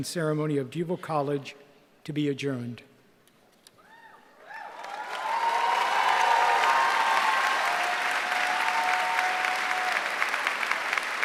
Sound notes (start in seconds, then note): 4.4 cheering